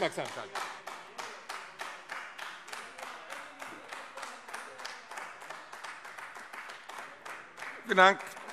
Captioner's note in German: Beifall AfD